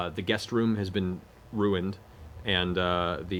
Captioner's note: none